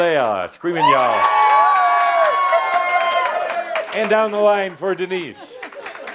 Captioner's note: audience screams and claps; lots of screaming and yelling and applause; some applause